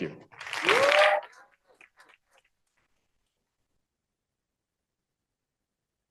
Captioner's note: cheering